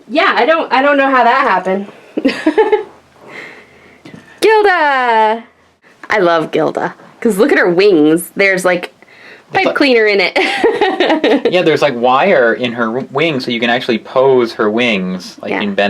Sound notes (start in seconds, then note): 2.2 laughs; 10.4 laughs